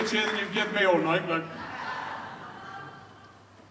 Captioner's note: audience cheers loudly; audience laughs